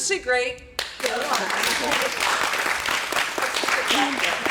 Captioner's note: applause